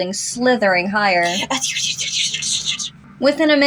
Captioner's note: slithering Sounds